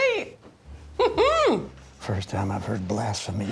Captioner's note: Angela laughs